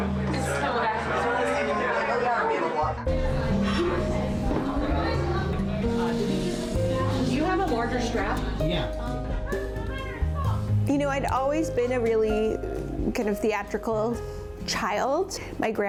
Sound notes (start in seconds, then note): 1.4 crew members murmuring; 1.4 upbeat music